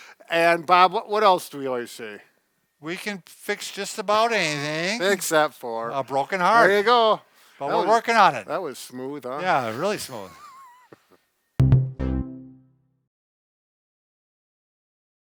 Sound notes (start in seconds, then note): 9.4 chuckles; 11.6 bouncy electronic chord